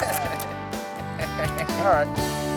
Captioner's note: men laughing